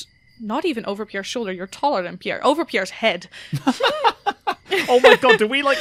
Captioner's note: laughs